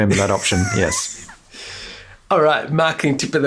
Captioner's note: wheezes in laughter